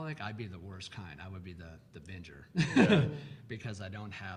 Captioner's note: laughs